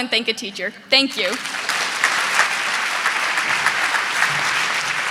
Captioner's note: audience clapping